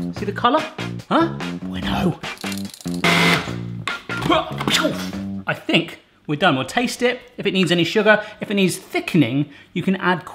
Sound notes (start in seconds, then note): 3.0 machine whirs